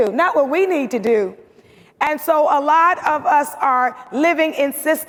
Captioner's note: none